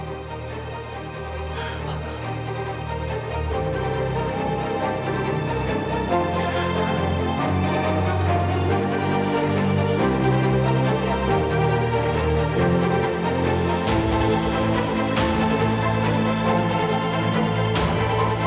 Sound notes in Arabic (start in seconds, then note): 0.3 موسيقى إثارة; 1.4 نفَس; 6.2 تنهدات